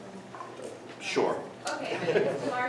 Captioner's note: lauging